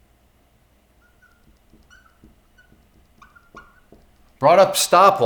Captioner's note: marker squeaking